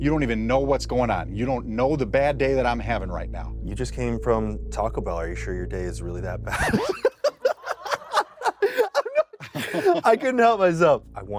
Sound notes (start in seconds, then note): 6.5 laughs